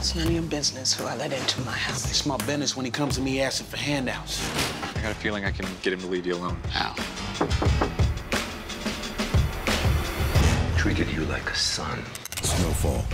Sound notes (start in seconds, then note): 7.3 knocking